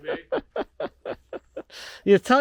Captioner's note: chuckles